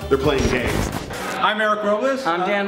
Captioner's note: static